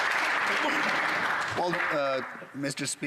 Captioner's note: some Applause